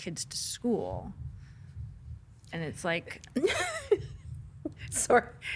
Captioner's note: laughing